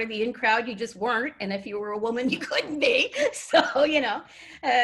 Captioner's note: laughs